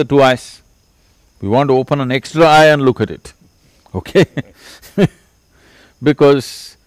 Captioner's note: laughter; 笑聲